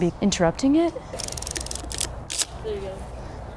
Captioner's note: film roll advances